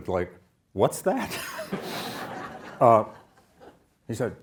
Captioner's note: audience laughs